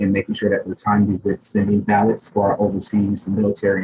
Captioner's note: speaking faintly